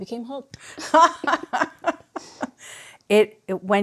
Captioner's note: laughs